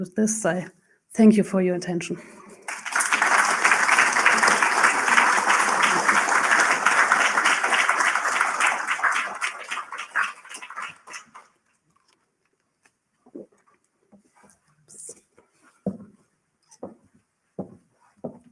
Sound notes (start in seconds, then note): 2.4 applause